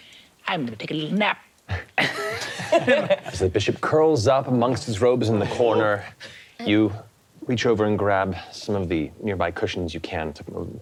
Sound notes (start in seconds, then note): 2.0 all laughing